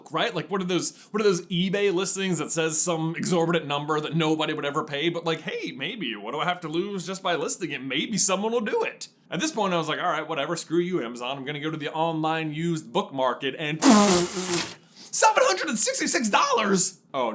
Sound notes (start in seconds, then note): 13.8 spit take